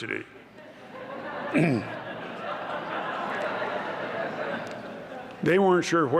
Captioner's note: laughter